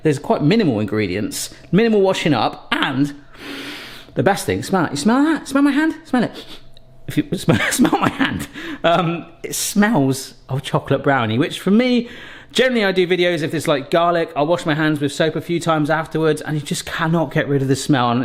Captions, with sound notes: there's quite minimal ingredients, minimal washing up, and, (sniffs deeply) the best thing, smell that. You smell that? Smell my hand, smell it. (sniffs) (chuckling) "Smell my hand"? It smells of chocolate brownie. Which for me, generally, I do videos, if it's like garlic, I'll wash my hands with soap a few times afterwards and you just cannot get rid of the smell.